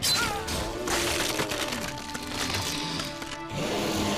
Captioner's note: bones crunching; sphinx roaring